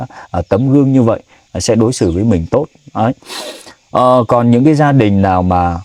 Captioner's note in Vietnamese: khịt mũi